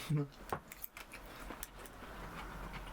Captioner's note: eating